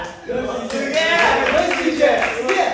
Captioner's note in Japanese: 拍手